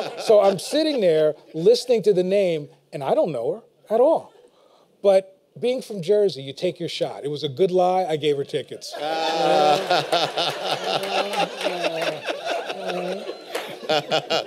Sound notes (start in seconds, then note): 9.0 laughter and applause